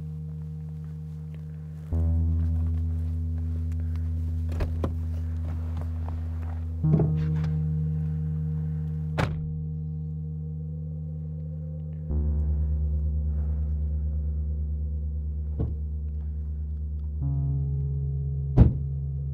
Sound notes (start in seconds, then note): 9.1 door slam; 12.2 heavy breathing; 15.5 trunk opens; 18.5 trunk slams